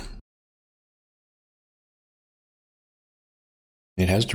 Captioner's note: silence